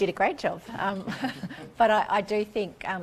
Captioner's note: laughing